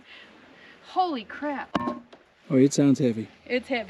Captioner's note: hammer clunking